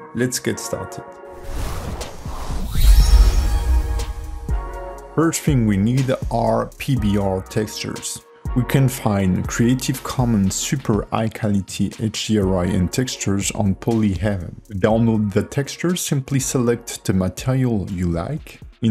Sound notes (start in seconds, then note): 1.3 swooshing; 2.8 chiming